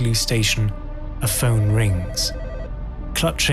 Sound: phone ringing

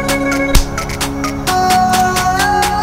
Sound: agressive slap

